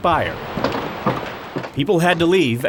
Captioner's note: footsteps